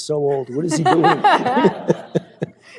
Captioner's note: laughter